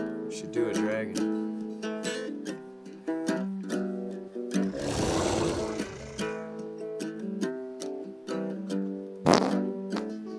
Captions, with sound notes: You should do a dragon. *dragon roars* *wet fart noise*